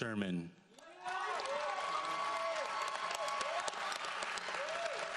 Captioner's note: audience applauds